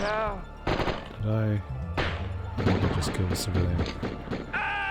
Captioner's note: sounding defeated